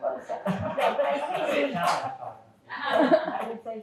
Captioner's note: audience and panelists continue laughing